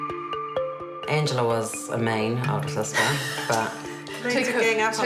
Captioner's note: dynamic chime music; laughs